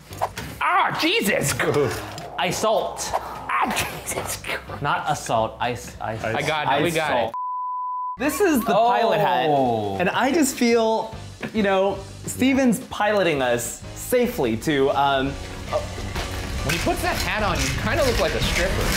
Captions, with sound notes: - Jesus! - Ice-ault. - Jesus Christ! - Not assault. Ice. - I got it. We got it. (screen beeping) - This is the pilot head. And I just feel, you know, Steven's piloting us safely to... - When he puts that hat on, you kind of look like a stripper.